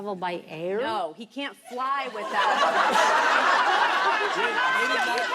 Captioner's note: laughing